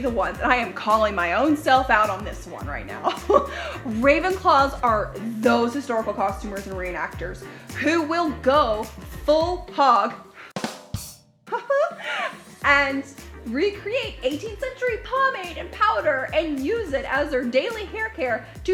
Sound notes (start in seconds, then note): 3.0 chuckles; 10.5 drumming; 11.6 laughs